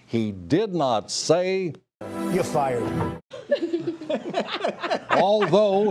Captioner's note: laughter